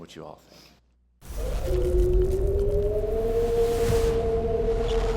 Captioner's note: wind howling